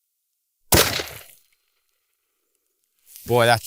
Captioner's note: gunshot